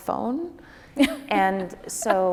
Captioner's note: laughing